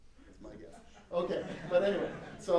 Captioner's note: laughter